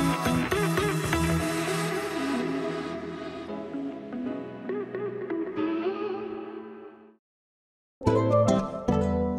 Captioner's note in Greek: χειροκρότημα